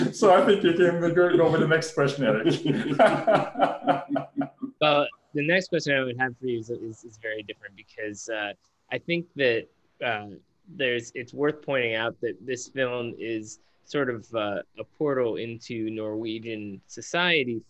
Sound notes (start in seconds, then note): 1.3 laughs